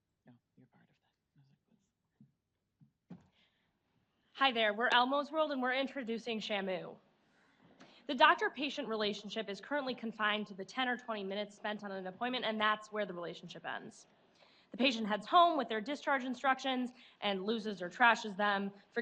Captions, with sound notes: (whispering) - Hi there we're Elmo's World, and we're introducing Shamu. The doctor-patient relationship is currently confined to the 10 or 20 minutes spent on an appointment, and that's where the relationship ends. The patient heads home, with their discharge instructions, and losses or trashes them,